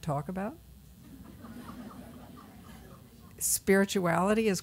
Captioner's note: laughter